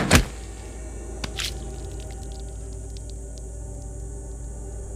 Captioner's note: thudding; guts squishing